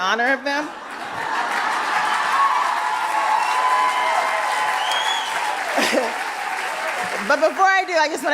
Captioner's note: applause